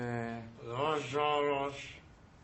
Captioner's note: muffled voice